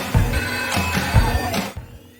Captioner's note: upbeat music; phone rings